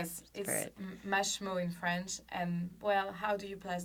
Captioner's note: speaks French